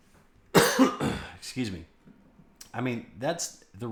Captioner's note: coughs